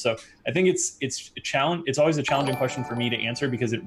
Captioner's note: ringing sound